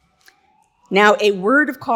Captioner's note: alarm blaring